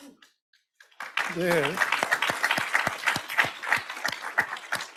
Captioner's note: audience applauds